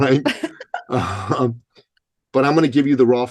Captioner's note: laughing